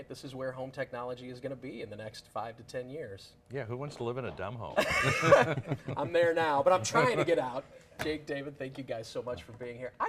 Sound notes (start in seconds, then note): 4.7 laughter